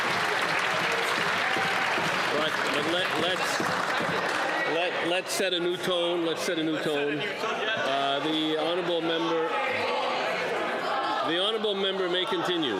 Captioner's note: some Applause